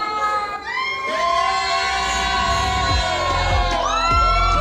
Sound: crowd cheering

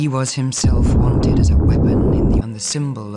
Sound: baboom

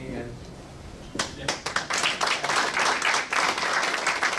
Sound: crowd clapping

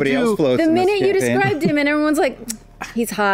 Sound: tuts

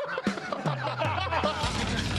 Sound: laughing

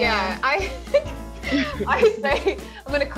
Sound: laughing

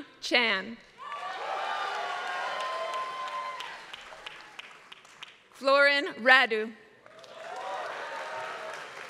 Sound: applause; applause

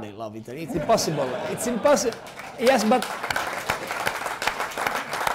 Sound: applause; laughter

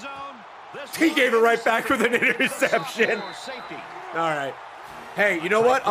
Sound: laughs

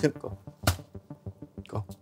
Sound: louder thud

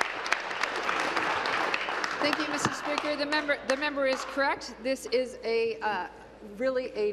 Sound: applause

